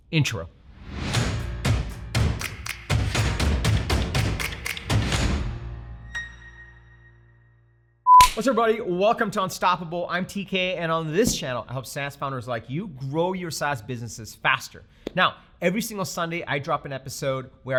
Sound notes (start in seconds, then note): 1.1 upbeat music; 8.2 snaps